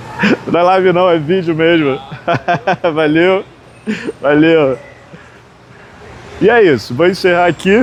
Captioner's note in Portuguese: risadas